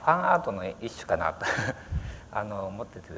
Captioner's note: laughter